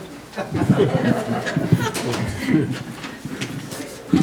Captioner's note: all laughing